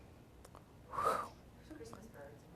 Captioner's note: sighs